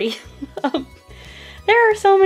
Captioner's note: laughing